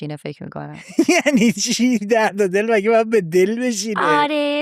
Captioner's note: laughs